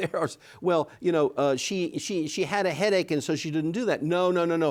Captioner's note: chuckles